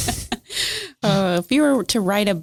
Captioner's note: laughing